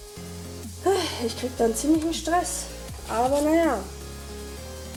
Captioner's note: sigh